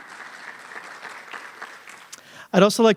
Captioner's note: applause